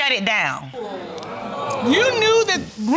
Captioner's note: audience groaning